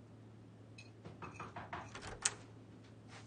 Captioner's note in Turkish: kapı vurulur